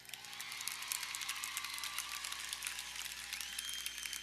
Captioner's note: audience cheering